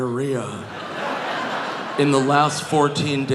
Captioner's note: audience laughing